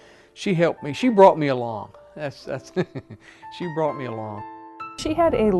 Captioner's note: laughs